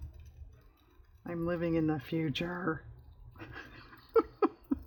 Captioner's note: laughs